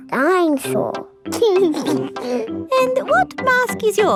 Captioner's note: giggles